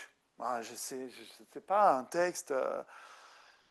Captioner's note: speaking French